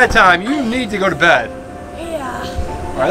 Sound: assistant sighs

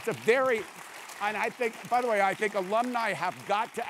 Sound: applause

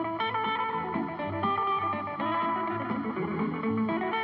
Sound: none

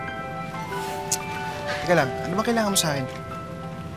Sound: clicks tongue

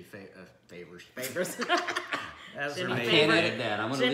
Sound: laughing

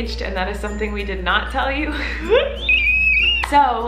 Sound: screaming

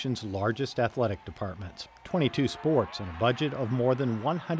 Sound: cheering crowds

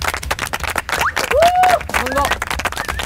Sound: cheering

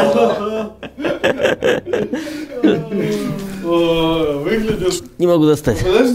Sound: laughing

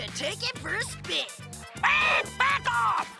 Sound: squawking

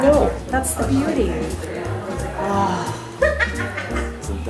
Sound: sighs

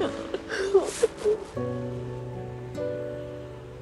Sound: sobbing

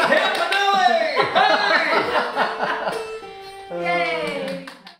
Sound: everyone laughing

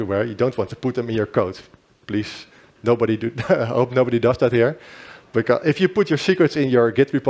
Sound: chuckles

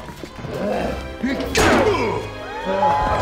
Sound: grunting

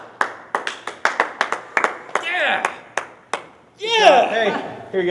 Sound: clapping

